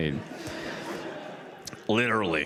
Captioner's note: audience laughs